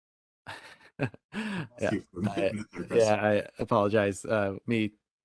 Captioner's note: laughing